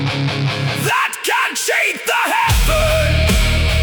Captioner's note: screaming